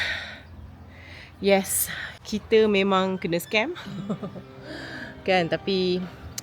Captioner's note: laugh